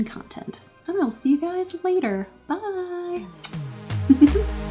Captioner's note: dark dance music; laughs